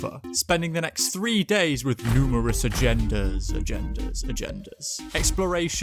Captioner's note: echoing